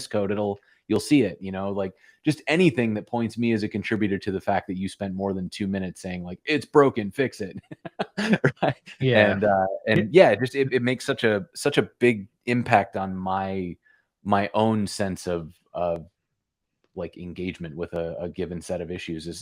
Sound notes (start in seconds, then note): 7.5 laughter